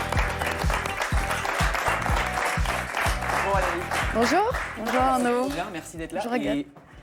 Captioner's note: applause